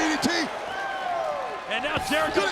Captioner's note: applause